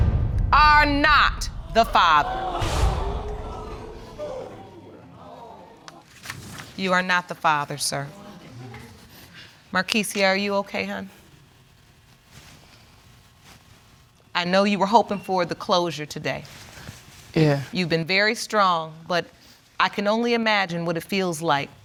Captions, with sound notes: ...are not the father. (AUDIENCE GASPING) You're not the father, sir. Markeysia, are you okay, hon? I know you were hoping for the closure today. Yeah. You've been very strong, but I can only imagine what it feels like.